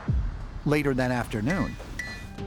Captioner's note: hammer clanging